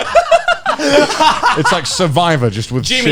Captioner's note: all laughing